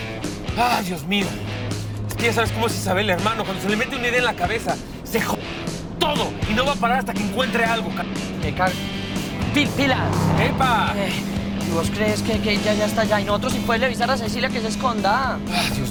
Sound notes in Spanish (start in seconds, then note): 10.2 Ruido de un vehículo